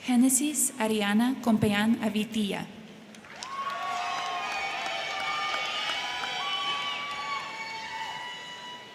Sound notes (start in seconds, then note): 3.1 crowd clapping; 3.2 crowd cheering